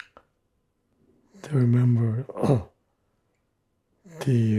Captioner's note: clears throat